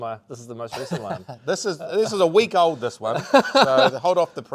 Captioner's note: chuckling; host chuckling